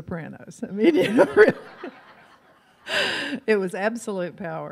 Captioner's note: audience laughs; laughs